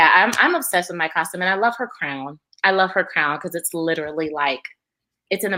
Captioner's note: none